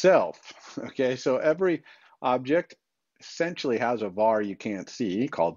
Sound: chuckles

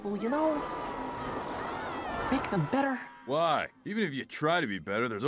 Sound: distant screaming

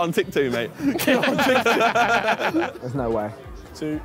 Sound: Sidemen laughing

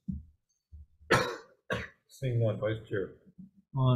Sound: clears throat

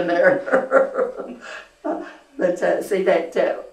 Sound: laughter

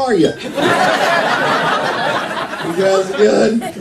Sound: laughter

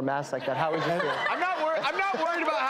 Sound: laughing

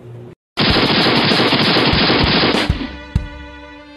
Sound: gun fires; upbeat music

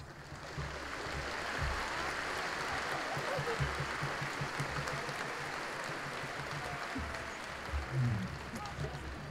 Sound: applause

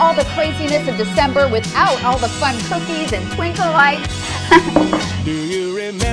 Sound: laughs

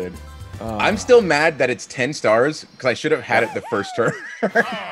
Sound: laugh

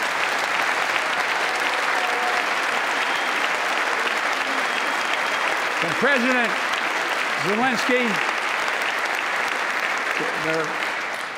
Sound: applause

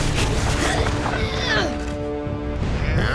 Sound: groaning

